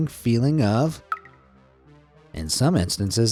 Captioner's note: water dripping